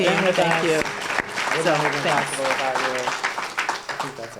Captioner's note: applause